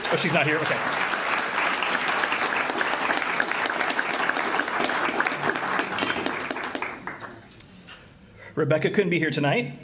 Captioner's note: applause